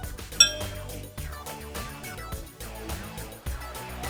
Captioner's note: horse shoe clanking